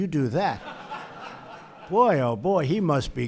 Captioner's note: laughter